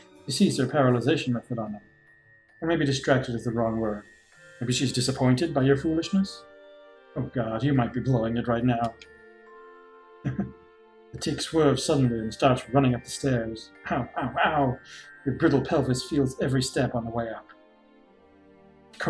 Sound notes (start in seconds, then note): 10.2 chuckles